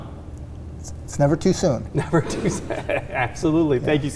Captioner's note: laughing